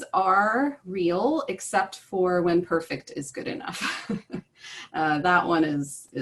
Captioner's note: laughter